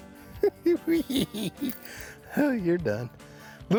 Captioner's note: chuckling